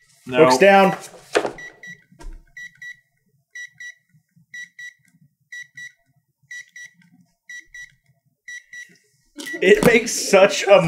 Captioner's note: gentle beeping